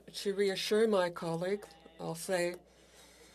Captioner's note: speaking French